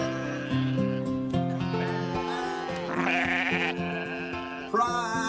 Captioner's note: sheep bleating